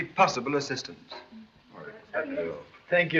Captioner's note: murmurs